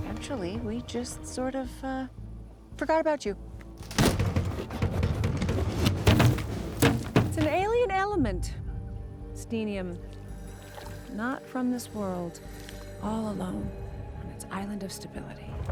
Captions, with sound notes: Actually, we just sort of, uh, forgot about you. (box rattles) It's an alien element, Steenium, not from this world. All alone on its island of stability